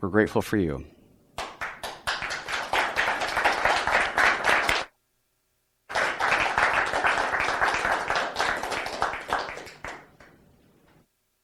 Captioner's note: applause